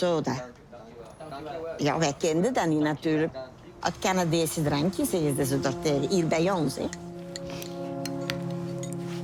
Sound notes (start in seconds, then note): 2.1 speaking foreign language